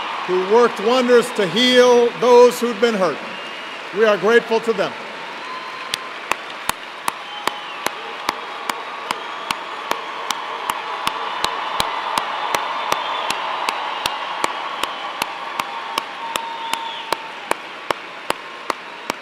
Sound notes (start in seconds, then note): 6.1 applause